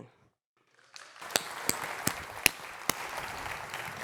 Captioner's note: applause